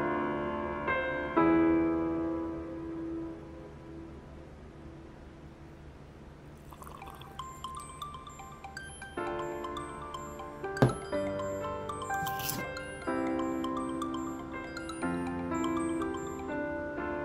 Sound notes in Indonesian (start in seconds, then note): 6.6 Kopi di seruput; 6.8 Dering HP berbunyi